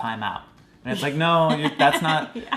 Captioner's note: laughing